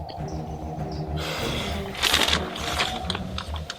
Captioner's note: sighing